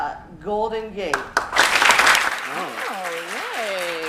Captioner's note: applause